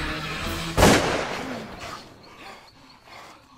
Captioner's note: gun firing